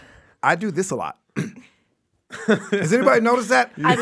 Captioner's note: clears throat